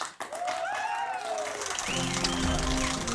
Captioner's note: cheers and applause